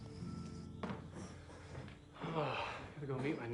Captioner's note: Evan sighs